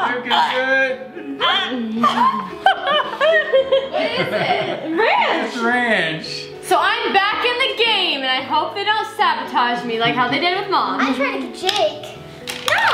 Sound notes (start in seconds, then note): 1.1 laughing